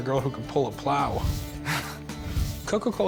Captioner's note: laughs